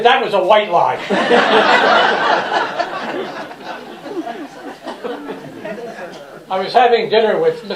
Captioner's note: laughter